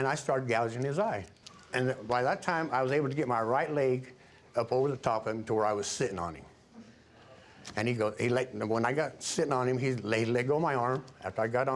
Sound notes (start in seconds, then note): 8.1 stuttering